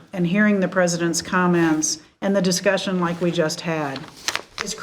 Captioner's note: none